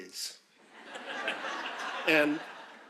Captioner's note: audience laughing